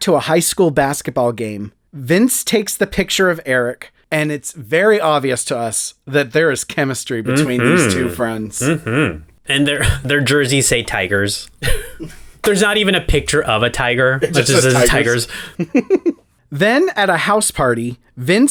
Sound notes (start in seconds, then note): 14.1 laugh